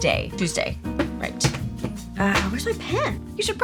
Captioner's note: slapping desk